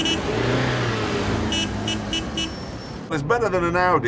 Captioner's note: car horn